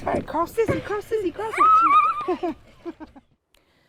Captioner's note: children laughing and screaming